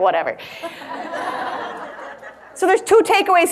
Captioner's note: audience laughs